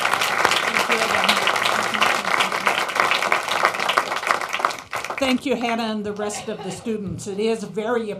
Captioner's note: applause